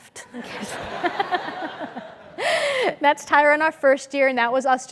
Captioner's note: laugh